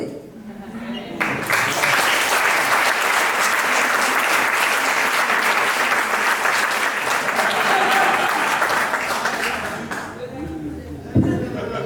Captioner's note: applauseof the crowd